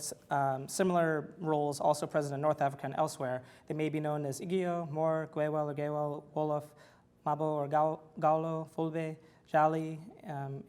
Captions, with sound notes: but with similar roles also present in North Africa and elsewhere that may be known as (foreign language) groups.